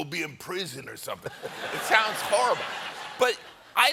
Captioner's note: gangster talk